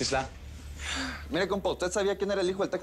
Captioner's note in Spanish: none